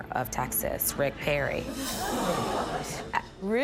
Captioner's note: crowd laughing